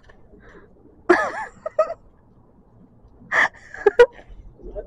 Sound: laughing while watching in amusement

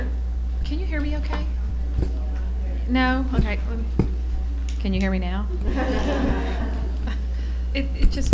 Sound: laughter

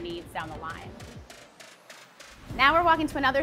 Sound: machinery clacking

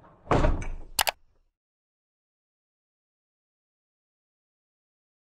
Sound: mouse clicking

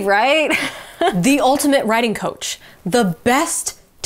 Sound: chuckles

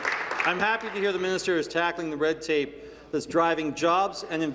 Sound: applause

